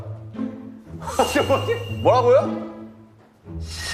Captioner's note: Tertawa